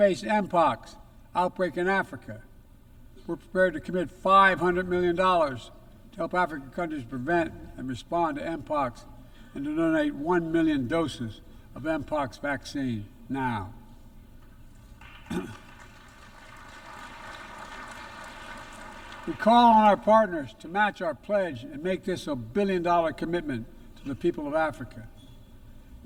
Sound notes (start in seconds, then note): 15.0 applause